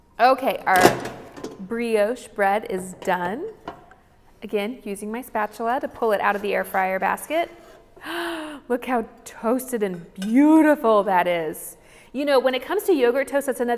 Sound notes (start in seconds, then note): 8.0 gasps